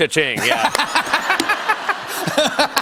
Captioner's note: laughter